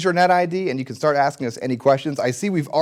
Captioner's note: none